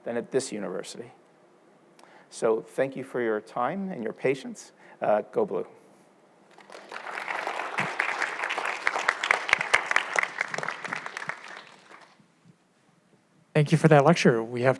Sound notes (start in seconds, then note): 6.5 audience applauds